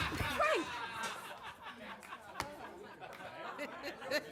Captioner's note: laughter; laughing